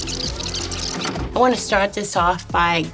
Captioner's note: videotape rewinding; videotape plays